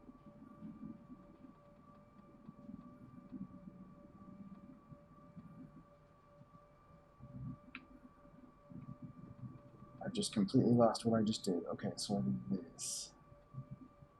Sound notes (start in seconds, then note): none